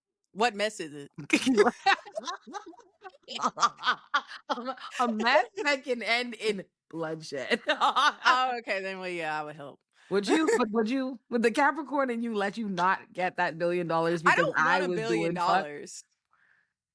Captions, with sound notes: What mess is it? (laughs) A mess that can end in bloodshed. Oh, okay, then yeah, I would help. Would you, with the Capricorn and you let you not get a billion dollars because I would be in touch? I don't want a billion dollars.